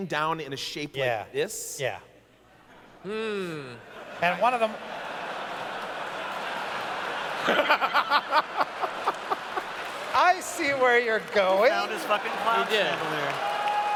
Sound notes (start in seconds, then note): 3.8 laughter